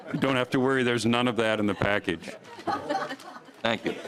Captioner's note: laughter